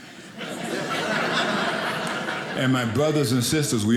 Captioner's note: audience laughing